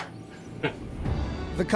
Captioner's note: laughs